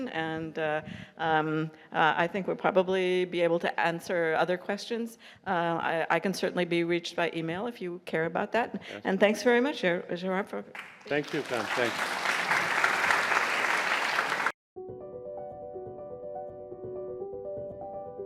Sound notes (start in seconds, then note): 13.0 audience applauds; 14.8 soft piano music